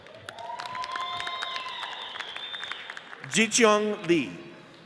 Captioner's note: audience cheers and applauds